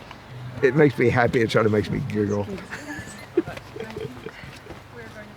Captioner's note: giggles